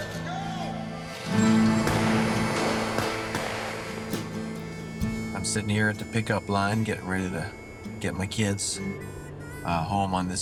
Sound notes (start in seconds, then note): 1.4 gunfire banging